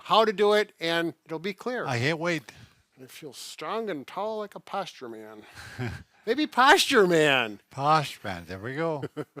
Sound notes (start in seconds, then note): 5.6 laughing